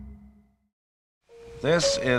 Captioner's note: silence